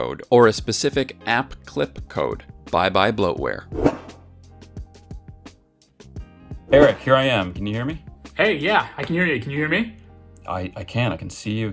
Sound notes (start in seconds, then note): 3.7 air whooshing; 4.8 cool music